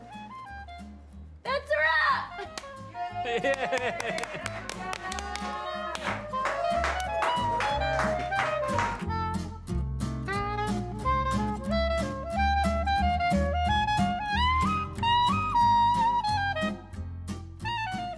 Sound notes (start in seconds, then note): 1.7 laughs; 3.0 all cheer